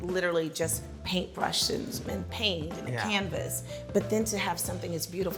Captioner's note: none